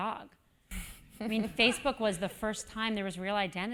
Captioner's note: laugh